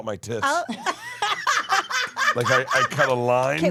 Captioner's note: laughs